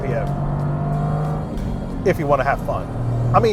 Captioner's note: engine revving